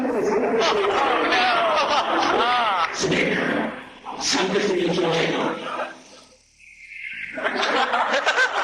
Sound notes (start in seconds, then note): 0.0 laughter; 5.7 laughter